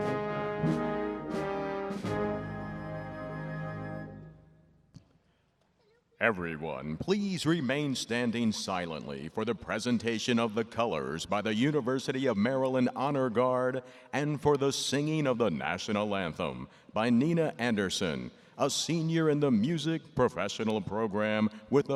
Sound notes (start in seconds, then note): 4.1 silence